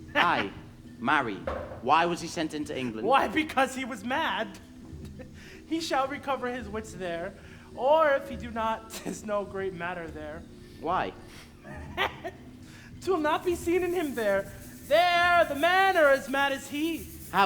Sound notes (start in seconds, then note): 0.0 snickers; 10.8 laughs